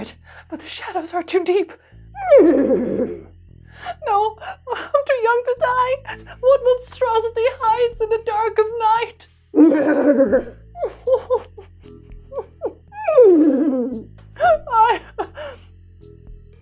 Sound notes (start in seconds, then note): 2.2 neighing; 9.5 crying; 9.6 neighing; 13.1 neighing